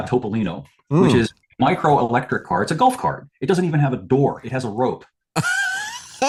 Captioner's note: laughs